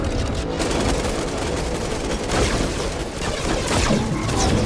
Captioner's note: weapons firing